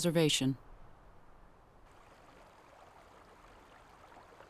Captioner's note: water trickling